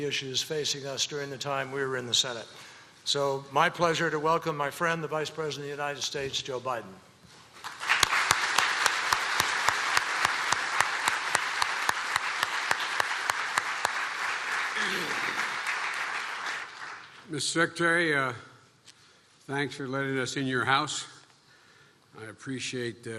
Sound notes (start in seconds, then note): 7.6 applause